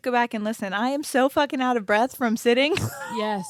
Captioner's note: laughs